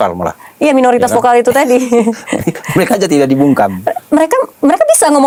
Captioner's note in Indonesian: tertawa